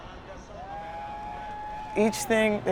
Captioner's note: crowd cheering